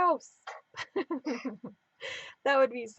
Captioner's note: laughing